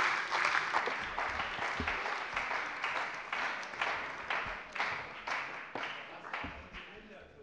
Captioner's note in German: Beifall bei der CDU und dem BÜNDNIS 90/DIE GRÜNEN